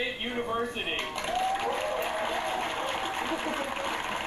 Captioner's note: clapping